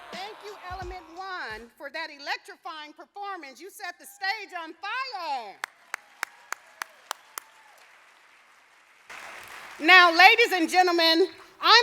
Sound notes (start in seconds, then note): 0.0 applauding; 5.6 audience applauding